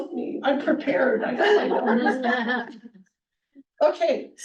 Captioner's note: all laughing